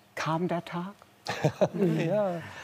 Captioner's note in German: Lachen